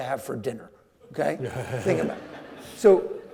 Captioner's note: audience laughing